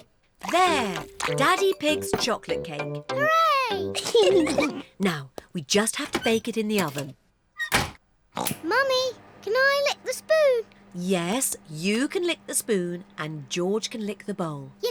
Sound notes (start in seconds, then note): 3.8 giggles; 8.1 oinks